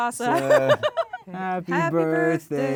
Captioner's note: laughs